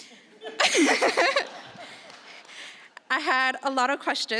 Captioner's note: audience laughing